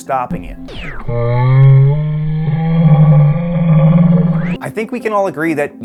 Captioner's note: intense yawn sound